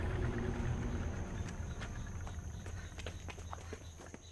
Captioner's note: birds chirping